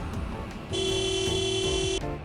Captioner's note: horn honking